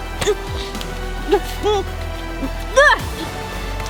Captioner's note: grunts